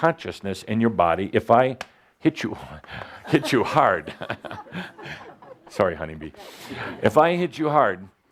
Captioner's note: Adamus chuckles